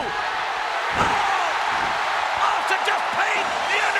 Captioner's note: audience cheers